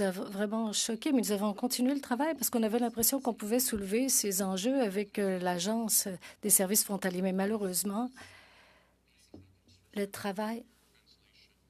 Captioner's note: speaking French